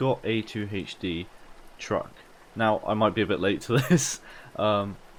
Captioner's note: laugh